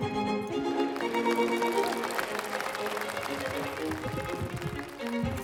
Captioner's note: audience applauding